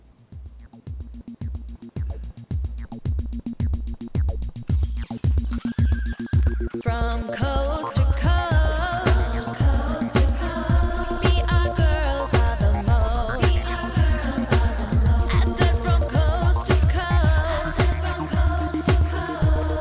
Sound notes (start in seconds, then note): 0.1 intense electronic music; 4.8 birds chirping; 5.8 horse whinnying